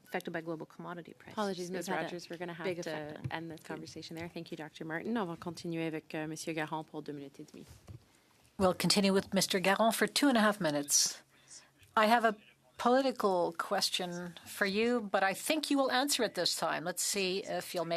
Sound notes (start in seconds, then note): 11.2 speaking French